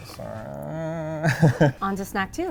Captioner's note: laughs